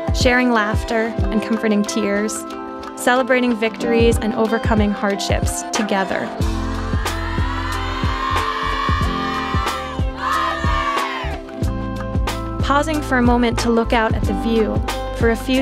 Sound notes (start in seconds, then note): 6.6 cheering